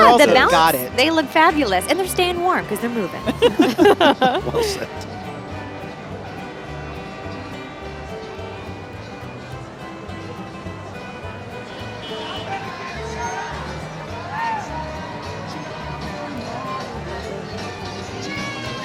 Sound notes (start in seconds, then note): 6.1 laughing; 7.4 holiday music